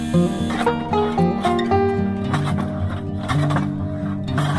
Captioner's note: plane rustling